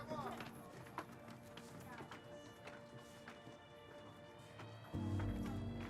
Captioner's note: people chattering faintly